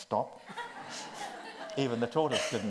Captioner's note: audience laughs